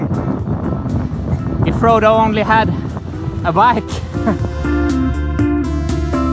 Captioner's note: chuckles